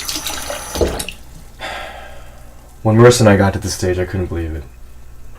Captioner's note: sigh